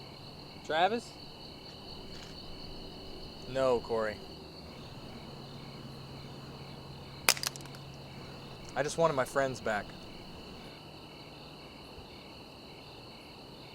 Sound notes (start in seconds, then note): 7.0 saber clatters